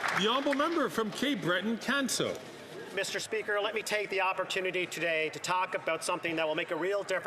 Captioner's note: some Applause